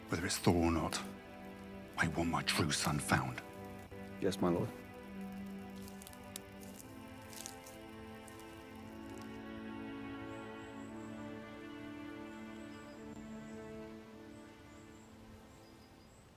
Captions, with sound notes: Whether it's Thor or not, I want my true son found. - Yes, my Lord. (grass crunching) (solemn music continues) (birds chirp)